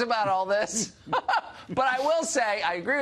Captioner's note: laughs